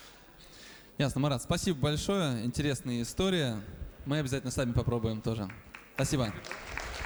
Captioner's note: applause